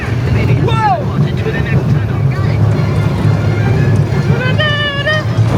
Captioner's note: coaster rumbling